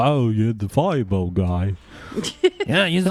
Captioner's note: laugh